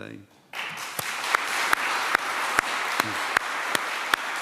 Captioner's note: applause